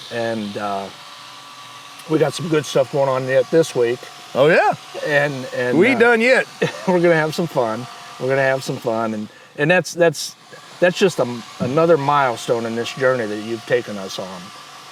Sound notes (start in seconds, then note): 2.0 tool grinding; 6.4 chuckles